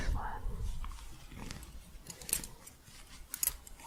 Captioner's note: scratching, then soft jingling